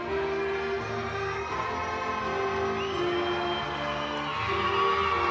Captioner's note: audience cheering